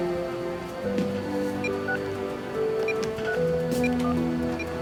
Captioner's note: phone beeping